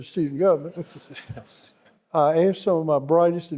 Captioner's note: panelists laughing; audience laughing